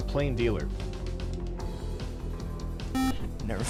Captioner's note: beep